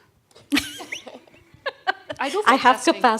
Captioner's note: laughing